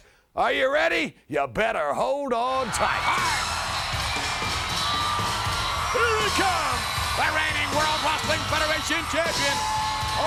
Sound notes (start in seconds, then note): 2.5 crowd cheering; 2.6 upbeat music